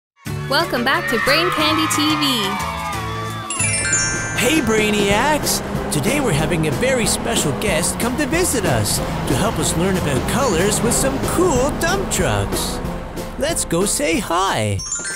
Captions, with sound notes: Welcome back to Brain Candy TV! [cheers] Hey Brainiacs! Today we’re having a very special guest come to visit us to help us learn about colors with some cool dump trucks. Let’s go say hi!